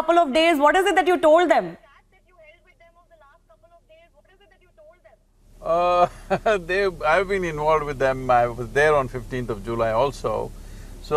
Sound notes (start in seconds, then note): 5.8 laughs